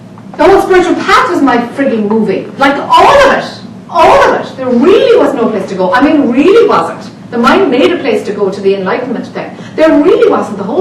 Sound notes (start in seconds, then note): none